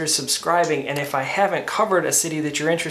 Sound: mouse clicking

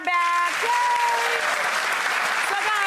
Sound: audience applauding

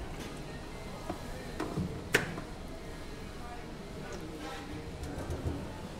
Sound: distant saw buzzes, people chatter

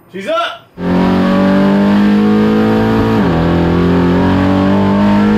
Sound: engine roaring

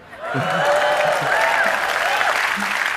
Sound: audience cheering; audience clapping

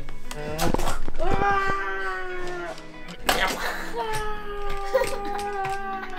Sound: crashing toy sound effects

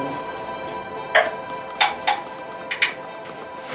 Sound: tapping sounds on the stalactites

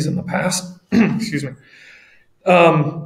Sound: clearing throat

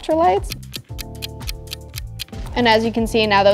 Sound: clock ticking

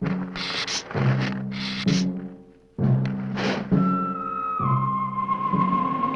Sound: suspenseful orchestral music; hissing

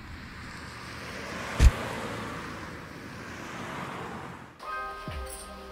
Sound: vehicle door shutting; mellow pensive music

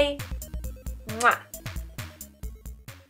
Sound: kiss

